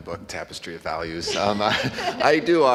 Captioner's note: laughing